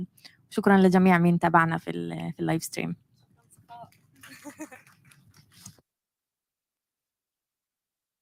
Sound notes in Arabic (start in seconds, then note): 2.2 لغة أجنبية; 4.1 تصفيق